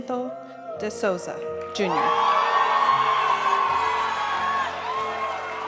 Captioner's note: audience cheering and applauding; graduation music